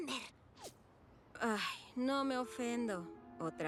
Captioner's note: sigh